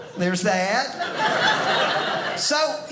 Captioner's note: audience laughing